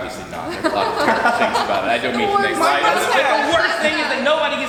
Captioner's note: group chattering and laughing